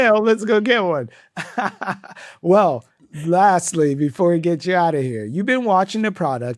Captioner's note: laughs